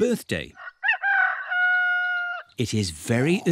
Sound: roster crows

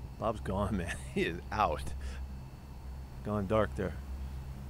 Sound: laughter

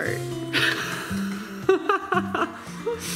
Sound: laughs

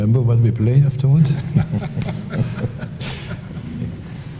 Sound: laughter

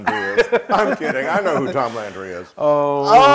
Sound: laugh

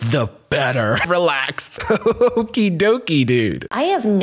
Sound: laughs

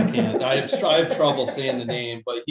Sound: all laughing

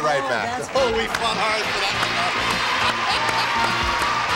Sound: chatter

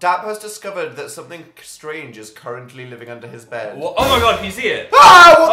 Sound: screams

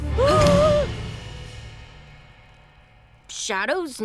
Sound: gasps

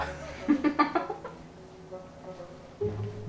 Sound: laughter

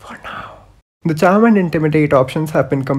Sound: whispers: for now

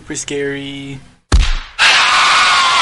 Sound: punch

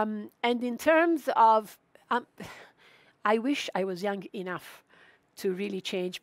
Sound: sighs

